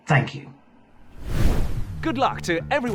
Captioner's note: air whooshes